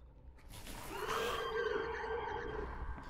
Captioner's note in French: cris inquiétants